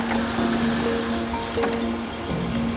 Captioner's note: engine stops